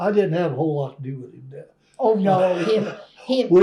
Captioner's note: laughs; laughter